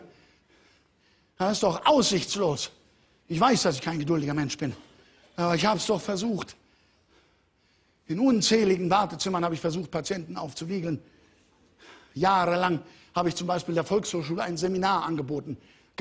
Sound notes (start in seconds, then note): none